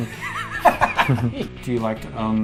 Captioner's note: laughs